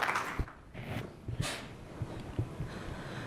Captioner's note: applause